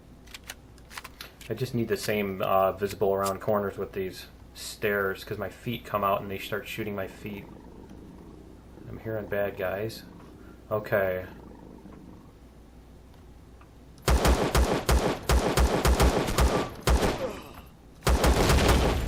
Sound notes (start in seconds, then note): 0.0 weapons click; 11.5 aliens growling; 13.9 explosion; 14.0 pistol firing